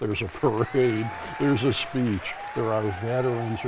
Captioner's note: people applauding